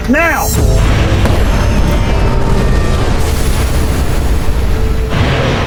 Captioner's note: loud rumbling; air hissing; loud crashing